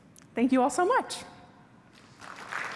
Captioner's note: applause